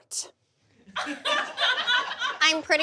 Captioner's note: audience laughs